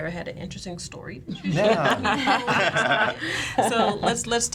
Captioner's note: laughing